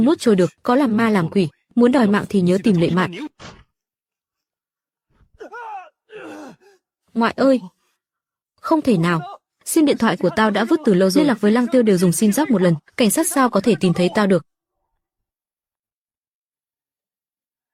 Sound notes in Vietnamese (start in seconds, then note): 5.3 rên rỉ